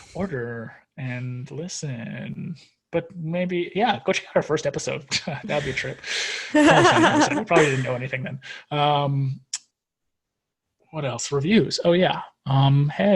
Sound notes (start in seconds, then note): 6.5 laughs